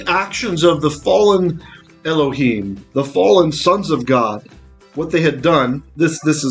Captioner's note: Hebrew